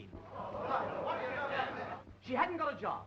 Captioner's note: audience murmuring